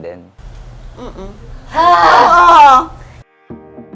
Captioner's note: exasperatedly sighs